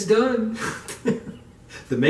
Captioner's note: laughing